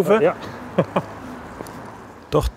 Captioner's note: short laugh